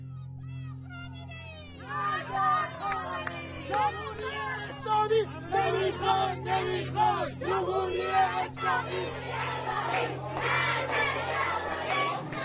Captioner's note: soundbite of archived recording